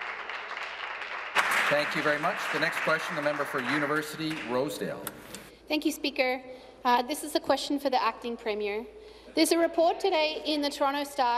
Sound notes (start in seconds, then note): 0.0 applause